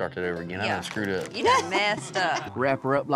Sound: laughs

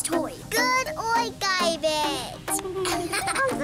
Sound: laughing

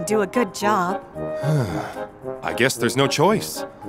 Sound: sighs

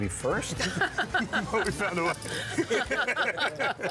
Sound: laughter

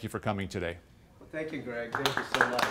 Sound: applause

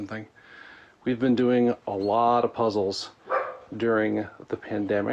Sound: dog barks

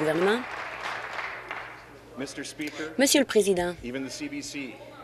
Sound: applause

